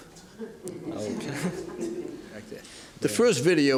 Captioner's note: laughter